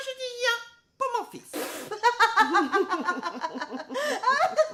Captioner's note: laughing